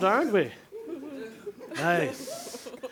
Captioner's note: affirmative chatter